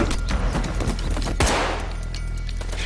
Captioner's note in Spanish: Disparos